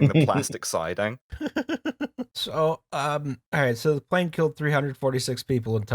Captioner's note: laughter